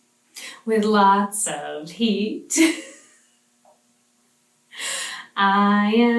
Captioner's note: laughs